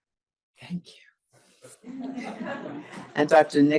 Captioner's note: audience laughs